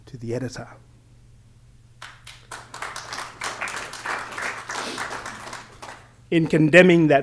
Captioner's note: applause